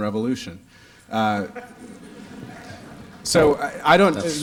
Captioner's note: laughter